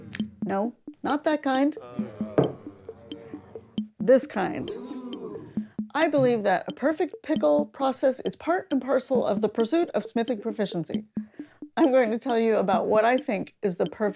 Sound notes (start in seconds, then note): 4.2 excited ooo!; 4.5 grumbling